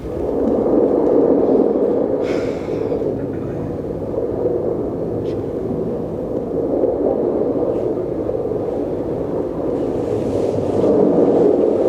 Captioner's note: wind blowing